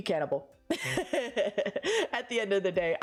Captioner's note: laughs